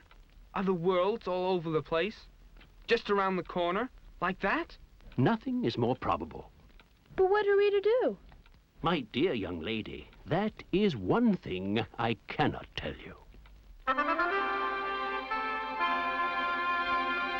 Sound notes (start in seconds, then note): none